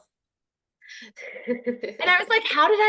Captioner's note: laughter